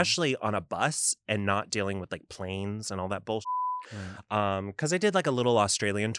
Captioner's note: beep